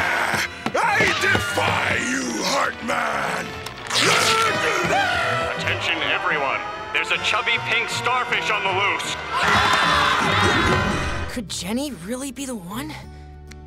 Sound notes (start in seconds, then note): 3.9 screaming; 9.1 screaming